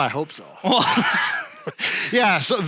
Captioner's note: laughs